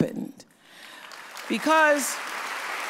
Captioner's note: audience applauds